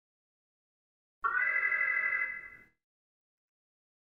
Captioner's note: alarm